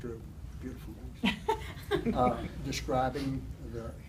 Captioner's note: chuckles